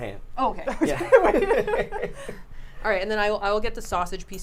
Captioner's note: laughs